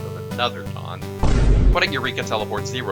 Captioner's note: speedy thud